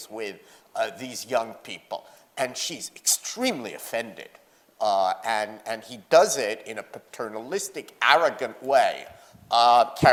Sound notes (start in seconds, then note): none